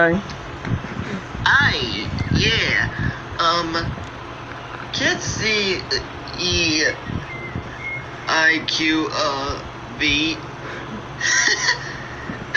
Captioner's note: chuckles